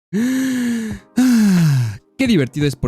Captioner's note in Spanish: suspiro